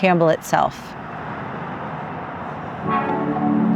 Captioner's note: traffic sounds